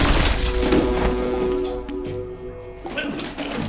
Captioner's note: thump